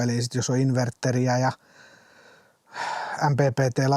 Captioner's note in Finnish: huokaus